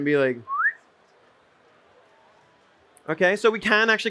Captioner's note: whistles